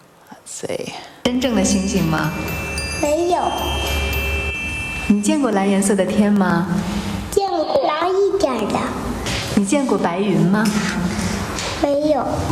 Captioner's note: speaking in Foreign Language